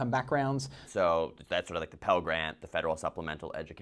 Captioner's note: voiceover